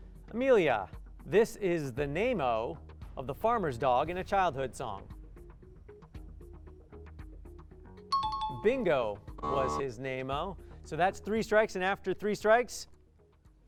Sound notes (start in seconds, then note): 7.8 timer